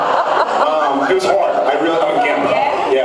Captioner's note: laughs